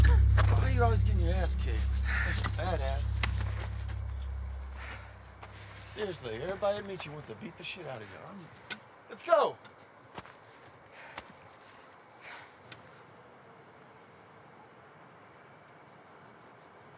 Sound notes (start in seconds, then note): 12.1 heavy breathing